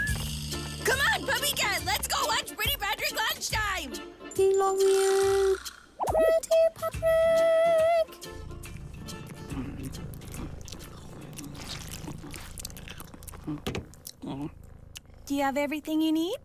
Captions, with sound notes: C'mon PuppyCat, let's go watch Pretty Patrick Lunchtime!!! (munching) Do you have everything you need?